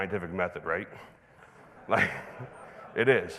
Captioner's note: chuckles; audience laughing